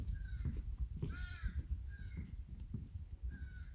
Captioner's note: birds chirping